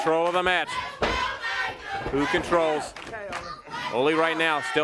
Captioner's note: crowd chatter